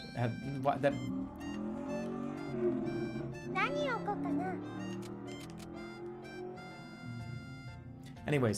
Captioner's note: loud vroomer passes